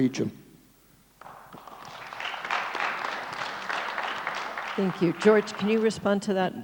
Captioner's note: audience applauds